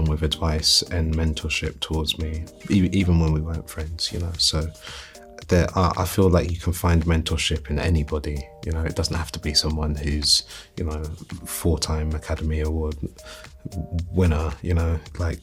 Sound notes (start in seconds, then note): none